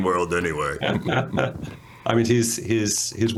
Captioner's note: laughter